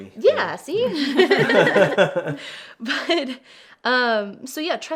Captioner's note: everyone laughs